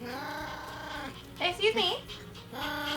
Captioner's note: growling